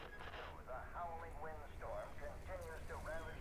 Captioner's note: radio Voice